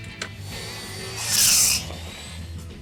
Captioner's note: grinding